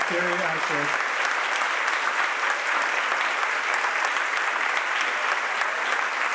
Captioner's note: audience applauds and cheers